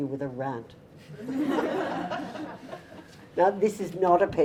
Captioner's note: audience laughter